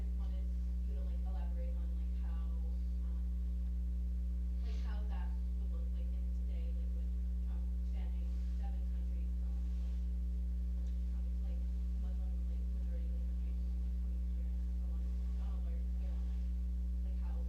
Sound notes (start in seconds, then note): 10.7 speaking off mic; 14.7 speaking off mic